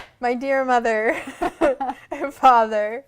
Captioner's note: laughter